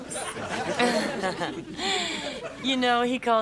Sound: Zelda chuckles weakly

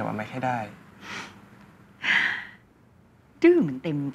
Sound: sigh

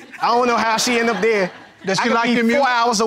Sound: laughing

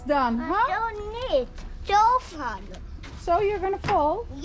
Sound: speaking Dutch

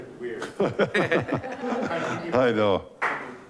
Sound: laughing

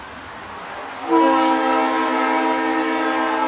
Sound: train Horn

